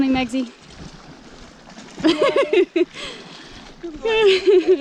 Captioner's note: laughing